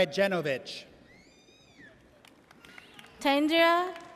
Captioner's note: audience cheers